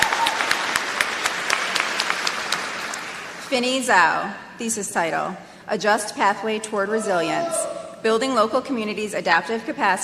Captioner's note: applause